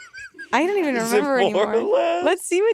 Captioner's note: laughing